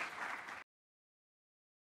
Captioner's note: applause